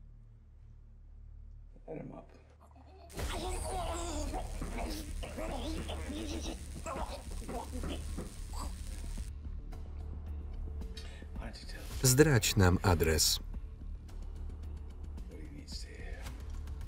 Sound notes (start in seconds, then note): 2.6 grunting; 3.1 sizzling